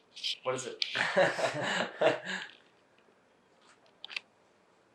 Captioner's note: laughing